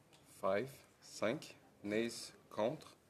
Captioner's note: speaking French